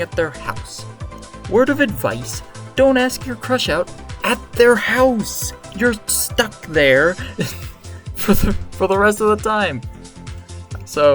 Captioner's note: laughs